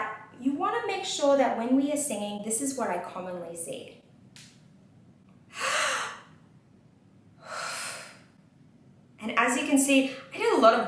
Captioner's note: inhales and exhales